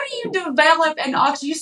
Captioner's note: laugh